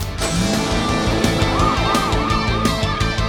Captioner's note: sirens blaring